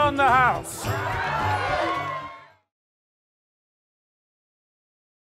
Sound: crowd cheers

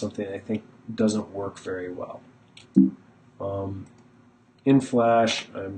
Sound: beeping noise

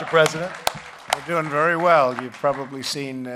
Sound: applause

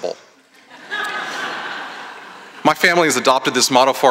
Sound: laughter

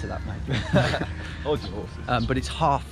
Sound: both laughing

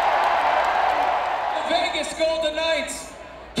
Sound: cheers and applause

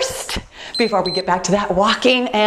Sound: timer beeps

